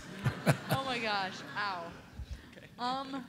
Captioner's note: audience laughing; voiceover